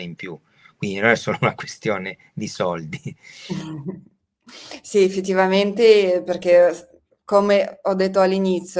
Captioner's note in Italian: risate